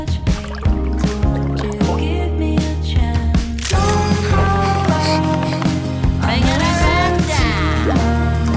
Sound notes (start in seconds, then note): 3.6 girlish panting